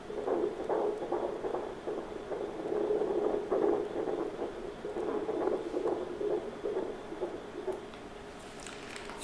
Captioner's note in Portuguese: batimentos cardíacos